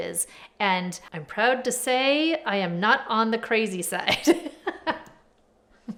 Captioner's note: laughs